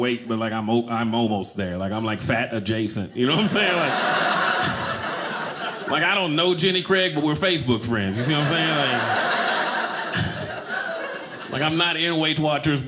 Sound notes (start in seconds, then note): 3.2 audience laughing; 8.0 audience laughing